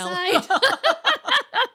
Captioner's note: laughing